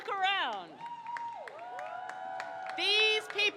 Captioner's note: crowd cheers